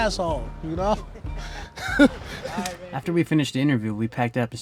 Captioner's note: laughs